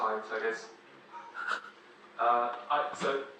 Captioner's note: member of audience chuckles